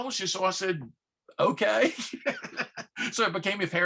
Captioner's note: laughs